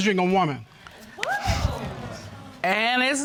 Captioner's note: audience gasps